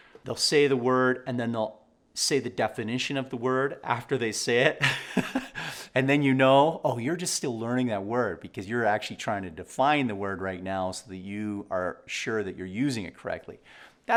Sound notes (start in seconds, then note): 4.8 laughs